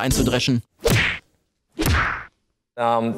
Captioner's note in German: Schlaggeräusche